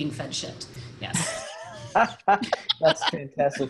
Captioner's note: all laughing